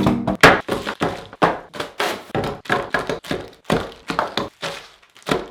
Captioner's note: objects banging on table